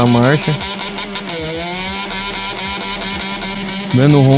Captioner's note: motorcycle snoring